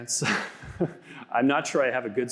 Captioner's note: laughs